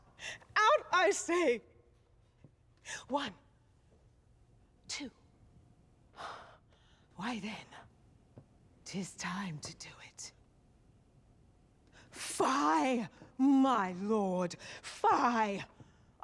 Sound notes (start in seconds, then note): 4.9 sighs